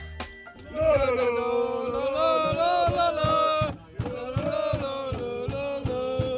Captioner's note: fans chanting